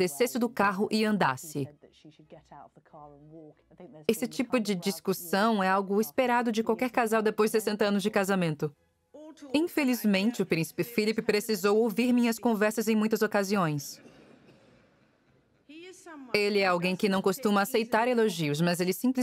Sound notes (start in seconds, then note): 13.1 audience laughing